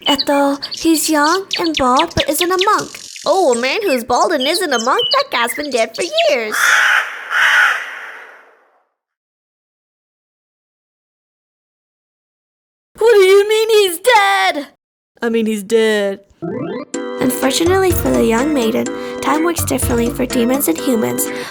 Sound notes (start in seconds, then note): 6.2 crow